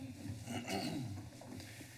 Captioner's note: clears throat